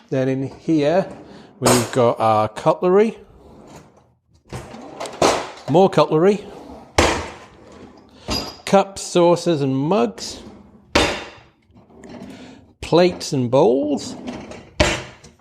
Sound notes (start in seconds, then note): 0.7 cutlery clanging; 3.2 drawers sliding closed and open; 4.5 drawer clunking shut; 6.4 drawer sliding open; 10.1 drawer sliding closed and open; 14.2 drawer clunking shut